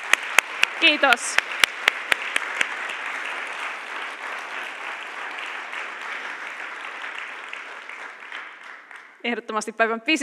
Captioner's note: applause